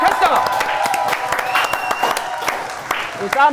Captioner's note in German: Jubel, Applaus